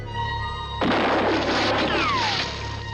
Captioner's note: gunfire